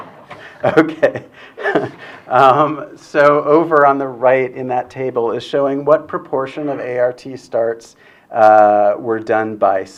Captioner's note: laughs